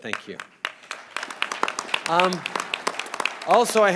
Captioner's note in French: Applaudissements